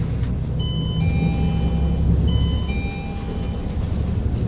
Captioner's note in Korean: 하차벨 소리